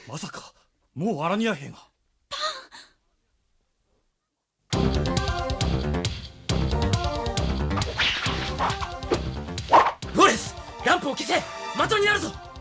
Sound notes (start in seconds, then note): 7.8 SFX: fight sounds